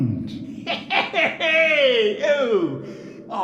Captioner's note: chuckles